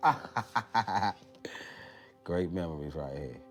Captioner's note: laughs